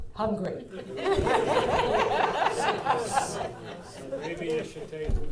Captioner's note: audience laughing